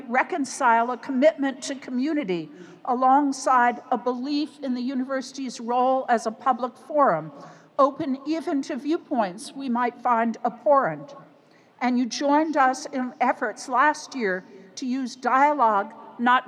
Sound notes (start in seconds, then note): none